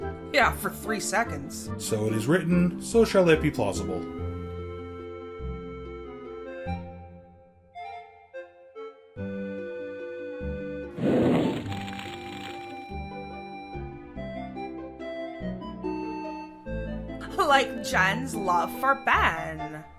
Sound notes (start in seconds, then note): 10.9 sound of a torch burning is heard